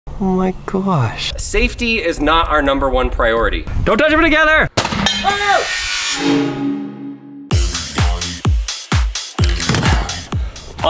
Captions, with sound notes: - Oh my gosh! Safety is not our number one priority. Don't touch them together! (seat exploding) (shouting) (upbeat music)